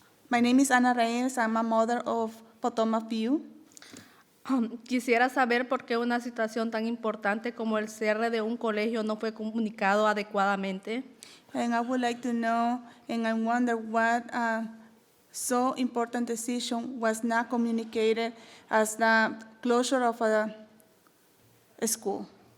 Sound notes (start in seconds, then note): 4.8 speaking in foreign language